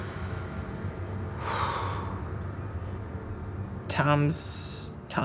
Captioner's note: breathes deeply